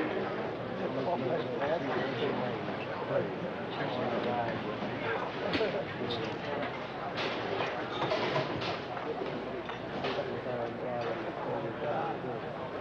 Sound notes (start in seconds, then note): 2.3 patients chattering